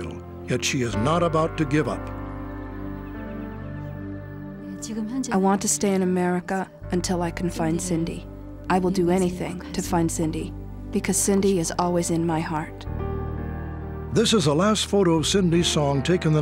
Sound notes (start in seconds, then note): 4.4 speaking korean